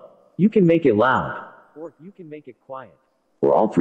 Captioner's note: low-pitched; quietly